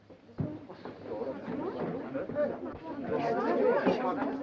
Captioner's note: crowd murmuring